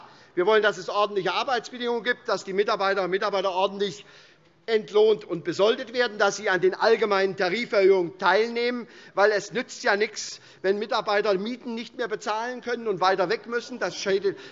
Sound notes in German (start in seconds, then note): none